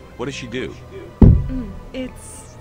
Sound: bump

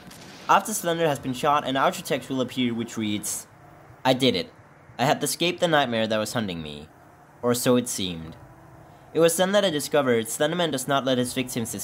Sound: reading aloud

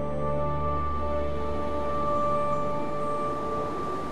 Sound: light breeze blowing

